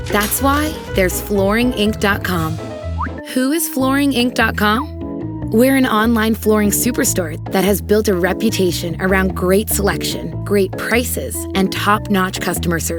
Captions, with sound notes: That's why there's FlooringInc.com. [Whistle sound] Who is flooring inc.com? We're an online flooring superstore that has built a reputation around great selection, great prices, and top-notch customer service.